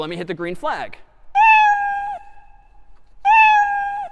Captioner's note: meowing